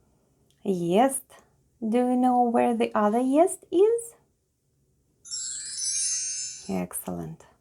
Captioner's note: chimes sound